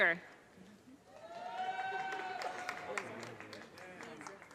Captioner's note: audience cheers and applause